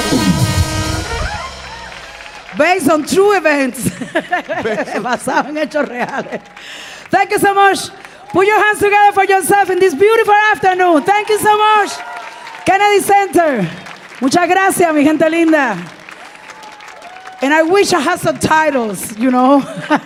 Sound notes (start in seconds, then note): 1.1 audience cheering and applauding; 3.7 laughing; 4.8 speaking in Spanish; 14.2 speaking in Spanish